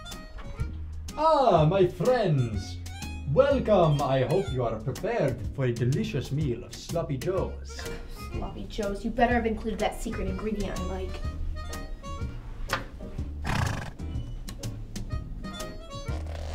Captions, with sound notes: Ah! My friends! Welcome! I hope you are prepared for a delicious meal of sloppy joes! Ugh. Sloppy Joes. You better have included that secret ingredient I like. *horse exhale*